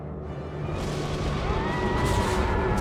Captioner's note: lightning crashing